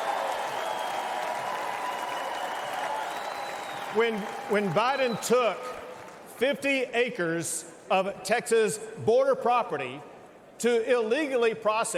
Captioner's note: cheers and applause